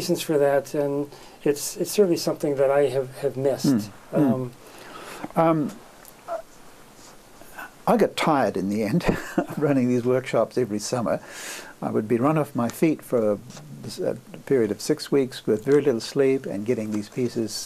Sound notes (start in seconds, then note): 8.3 laughs